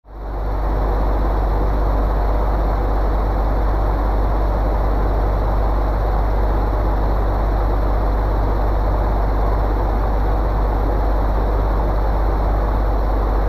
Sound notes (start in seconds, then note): 0.1 fan noise